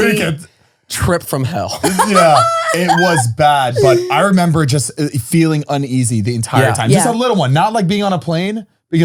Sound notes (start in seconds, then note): 1.7 laughing